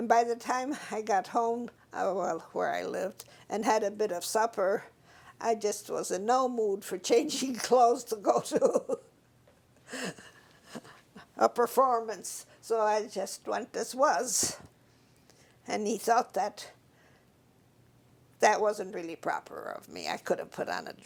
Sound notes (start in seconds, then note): 9.9 laugh